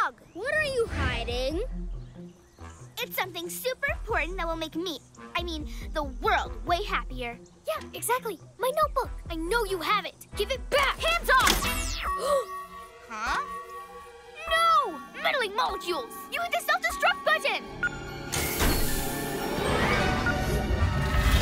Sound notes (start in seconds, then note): 12.1 gasps; 19.3 suspenseful music